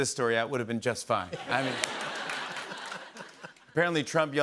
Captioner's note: laughter